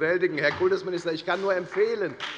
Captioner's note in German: Beifall bei der FDP